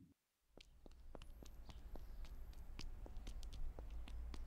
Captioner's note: footsteps plodding